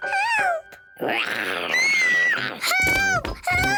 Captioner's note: snarls; screams